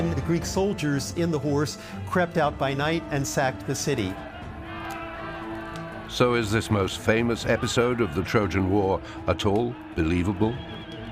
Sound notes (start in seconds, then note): 3.9 soldiers shouting; 4.9 ominous music